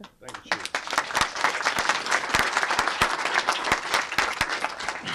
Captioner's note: applause